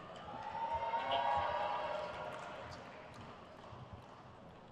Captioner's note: crowd cheers